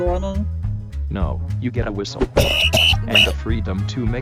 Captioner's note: Cake chokes on the whistle